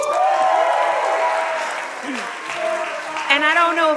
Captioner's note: audience applauding